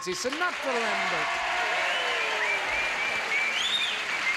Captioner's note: audience cheers